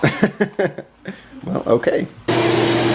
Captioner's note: laughter